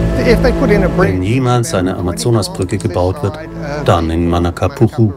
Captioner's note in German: englisch